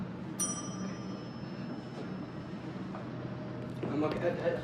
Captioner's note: elevator dings